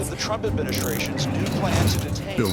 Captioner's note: handcuffs locking